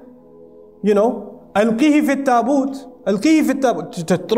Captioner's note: Arabic